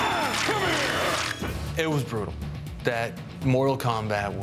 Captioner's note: screaming